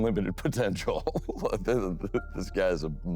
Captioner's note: laughs